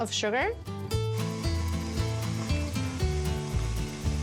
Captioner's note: mixer whirs